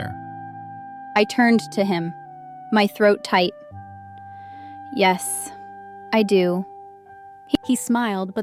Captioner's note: throat tight